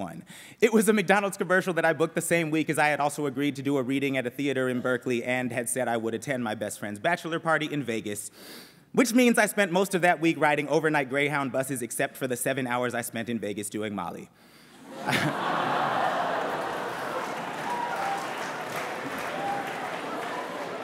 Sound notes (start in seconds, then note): 14.8 laughter; 16.8 applause